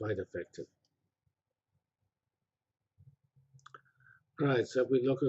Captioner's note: pause